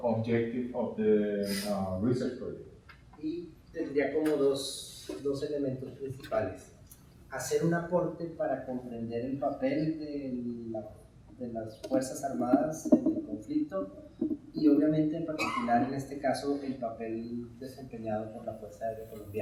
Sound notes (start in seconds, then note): 3.3 speaking in Spanish